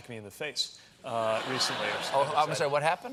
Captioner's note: laughter